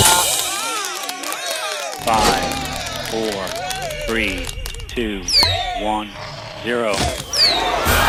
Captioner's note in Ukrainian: оплески